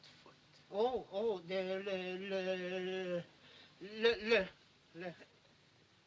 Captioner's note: stammering